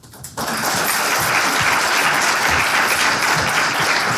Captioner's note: applause